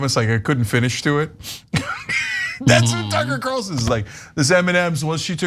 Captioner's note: laugh